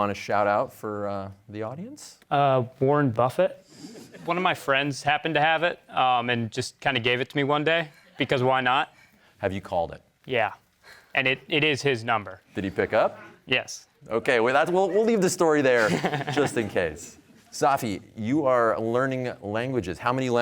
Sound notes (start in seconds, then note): 3.0 audience chuckles